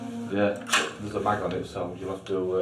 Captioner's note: intense electronic music; gunmetal clacking